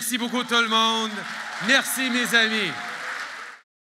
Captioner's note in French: Applaudissements